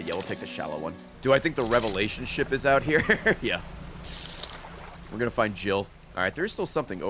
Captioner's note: laughs